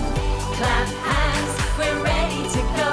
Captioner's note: clap, clap